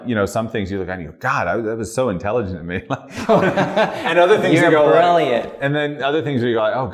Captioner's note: laughter